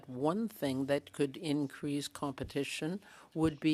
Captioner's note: speaking French